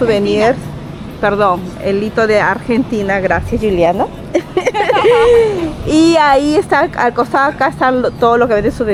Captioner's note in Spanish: risas